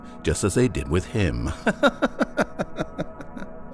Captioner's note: laughing